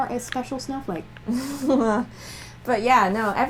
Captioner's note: laughter